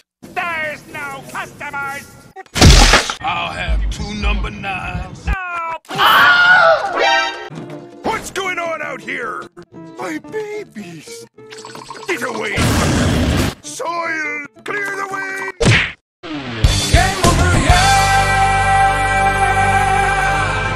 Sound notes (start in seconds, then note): 5.6 Wilhelm Scream